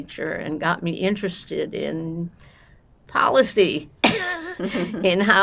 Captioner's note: laughing